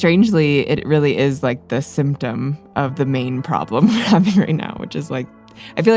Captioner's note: laughs